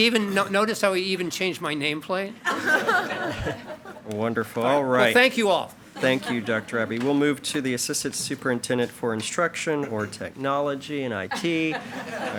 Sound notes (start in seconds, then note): 2.4 attendees and board chair chuckle; 11.3 attendees chuckle